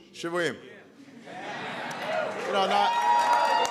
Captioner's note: applause